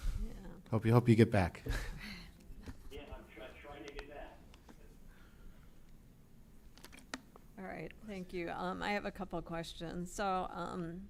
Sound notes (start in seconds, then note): 5.3 laughs